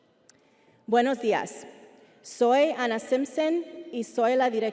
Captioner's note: speaking Spanish